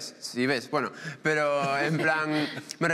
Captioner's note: they laugh